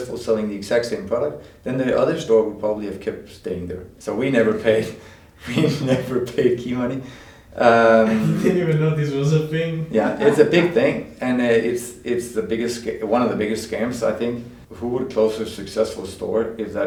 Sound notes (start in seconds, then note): 7.8 laughs